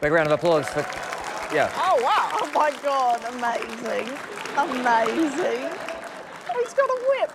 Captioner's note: cheering, applause